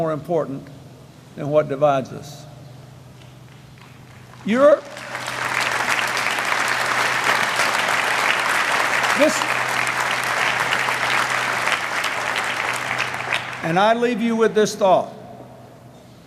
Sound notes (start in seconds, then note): 4.6 applause